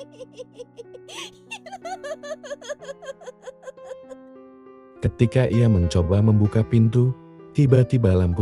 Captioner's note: laughing